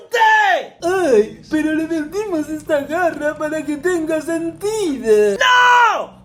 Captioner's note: in mocking tone